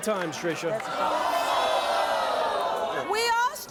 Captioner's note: audience groaning